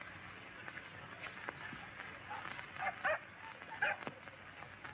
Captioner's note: dog barking